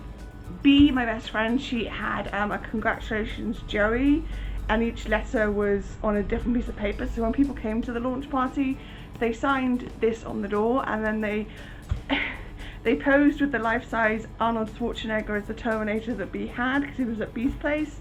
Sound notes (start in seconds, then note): 12.1 laughing